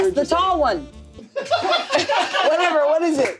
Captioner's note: everyone laughs